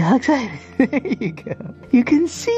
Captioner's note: laughs